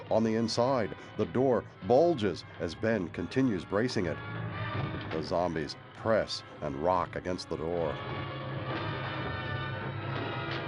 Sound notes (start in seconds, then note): none